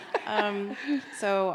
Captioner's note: laughing